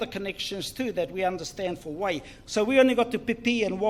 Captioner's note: foreign Language